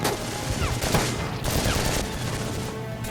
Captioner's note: gunfire